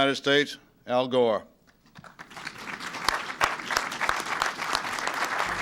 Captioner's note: applause